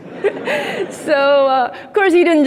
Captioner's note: audience laughing; laughs